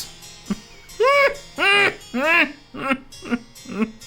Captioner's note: laughs